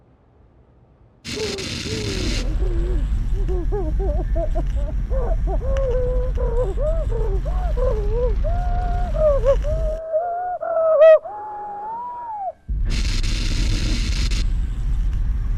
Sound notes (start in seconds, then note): 3.6 muffled crying